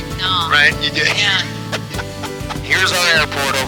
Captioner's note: laughing